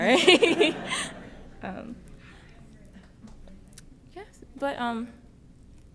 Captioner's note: laughs; laughs